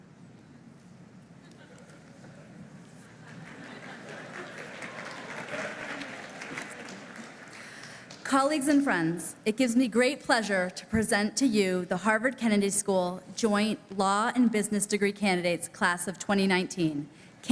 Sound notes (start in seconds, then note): 3.2 laughing; 3.2 applause